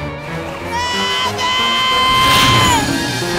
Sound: screaming

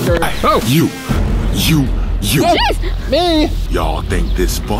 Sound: yelps

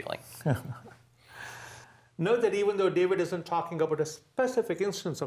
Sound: laugh

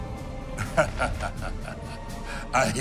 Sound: chuckles

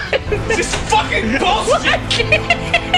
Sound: laugh

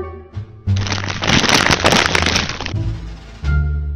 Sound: rustling

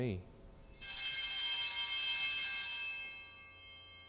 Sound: bells ring

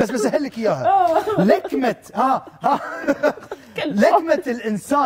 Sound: both laughing

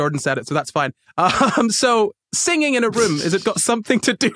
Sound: laughs

